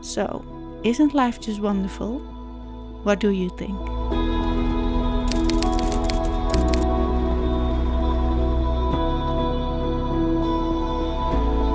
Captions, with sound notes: So, isn't life just wonderful? What do you think? (typewriter clicks) (gentle music)